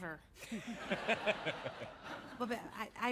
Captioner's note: laughs